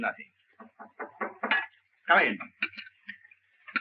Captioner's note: knocking on door